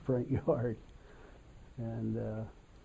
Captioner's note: laughs